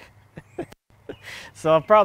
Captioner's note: laughing